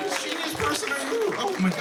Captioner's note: cheers and applause